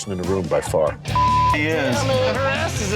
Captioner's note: beep